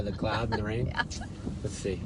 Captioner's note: laughs